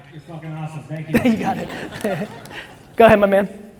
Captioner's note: chuckles